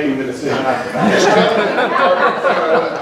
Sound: laughter

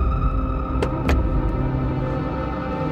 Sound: car door opens

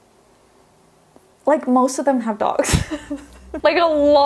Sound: laughs

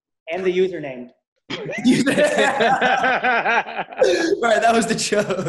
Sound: laughing

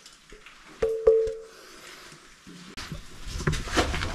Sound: bell ringing

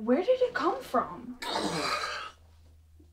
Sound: Barry groans

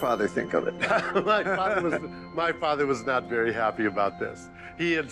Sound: laughing

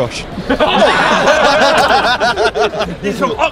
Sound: all laugh

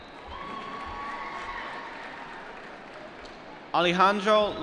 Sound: applause

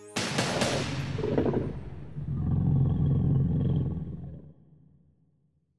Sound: dragon growls

